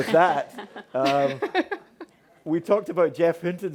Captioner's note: panelists laughing